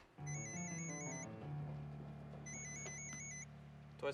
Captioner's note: phone rings